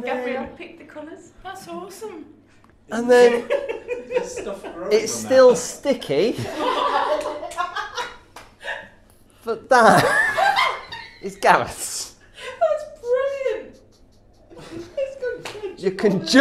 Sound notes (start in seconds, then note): 7.0 everyone laughing